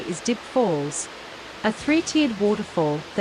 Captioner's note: water falls